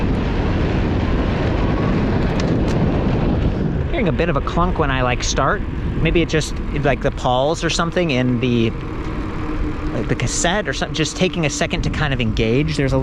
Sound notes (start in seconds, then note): 3.0 clicking